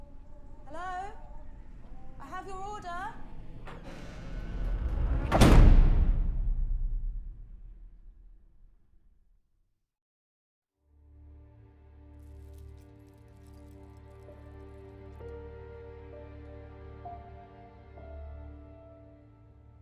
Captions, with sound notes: Hello? I have your order! (door creaks) (door slams) (sombre orchestral music) (jewellery clinks)